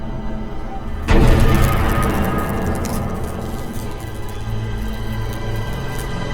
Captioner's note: electricity buzzing; dramatic music